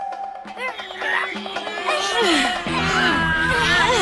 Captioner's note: grunting